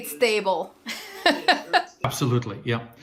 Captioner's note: laughing